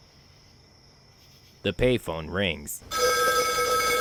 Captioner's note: the pay phone rings